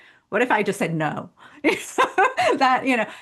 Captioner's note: laughing